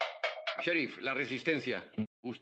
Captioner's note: shouting